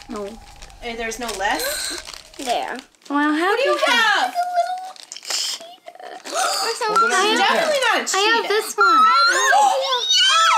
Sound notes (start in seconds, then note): 6.2 gasps; 8.7 squeels